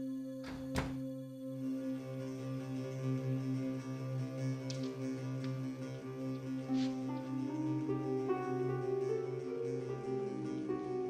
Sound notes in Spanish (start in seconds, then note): 0.4 sonido al abrir la puerta